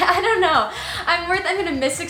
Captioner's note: laughs